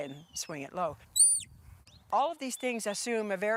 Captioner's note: whistling